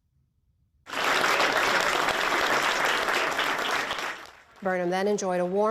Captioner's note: applause